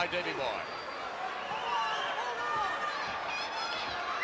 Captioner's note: crowd yelling